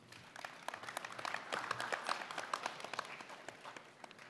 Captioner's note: applause